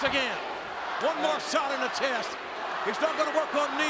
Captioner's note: spectators cheering